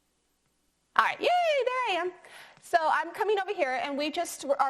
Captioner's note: shouts cheerfully